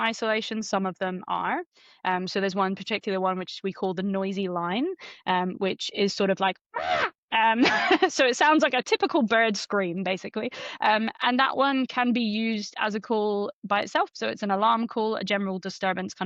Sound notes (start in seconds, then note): 6.9 makes bird sound